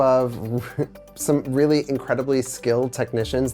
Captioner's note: chuckles